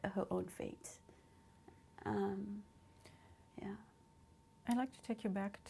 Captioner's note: pauses for 3 seconds